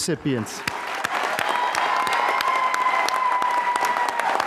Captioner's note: applause